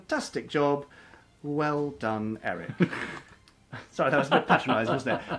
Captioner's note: laughs